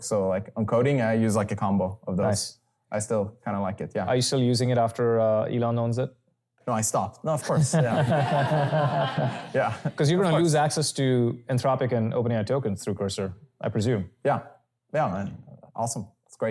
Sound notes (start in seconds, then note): 7.5 laughter